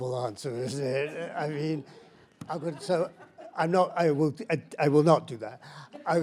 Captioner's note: panelist laughs